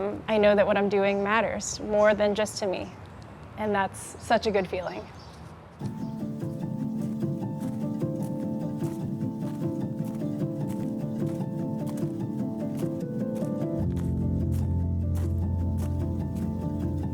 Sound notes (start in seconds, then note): 5.9 bright music; 5.9 footsteps crunching